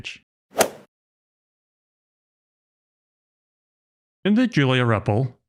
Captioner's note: golf ball hit sound effect